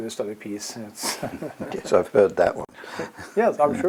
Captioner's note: laugh